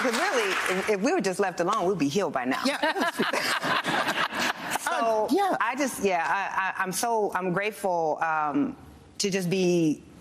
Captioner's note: applause